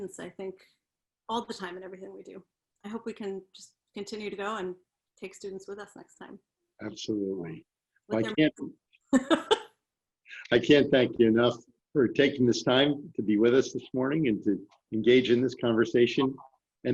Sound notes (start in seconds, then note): 9.1 laughter